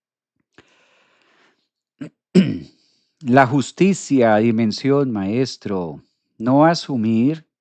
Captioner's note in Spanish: carraspeo